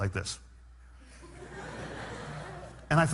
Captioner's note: laughter